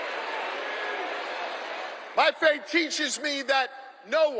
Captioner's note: applause